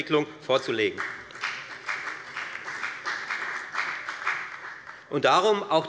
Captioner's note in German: Beifall bei der FDP und bei Abgeordneten der SPD